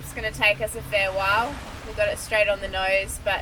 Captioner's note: waves gently gushing